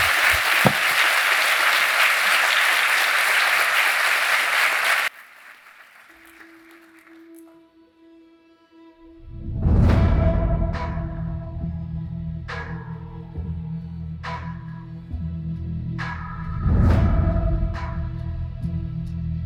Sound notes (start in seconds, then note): 3.9 applause